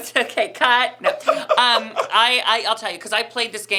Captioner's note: laughing